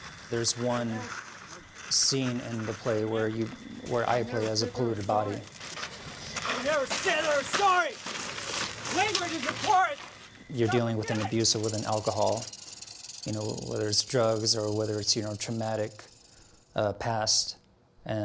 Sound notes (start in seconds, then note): 6.1 shouts and yells